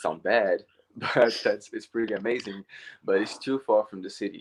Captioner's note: laughs